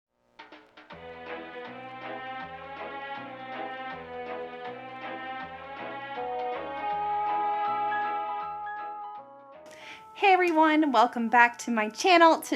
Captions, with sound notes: (jazzy music) - Hey everyone! (claps hands) Welcome back to my channel.